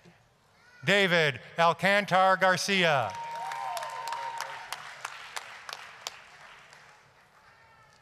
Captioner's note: applause, cheering